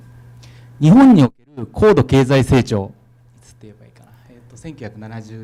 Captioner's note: speaking foreign language